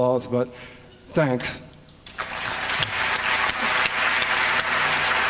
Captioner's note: applause